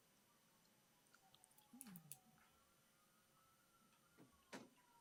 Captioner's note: police sirens wailing